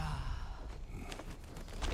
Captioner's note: grunt